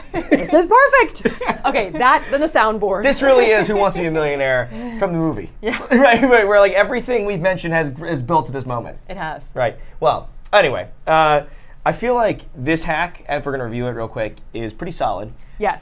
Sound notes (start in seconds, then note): 0.0 laughs